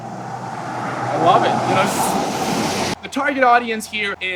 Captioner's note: traffic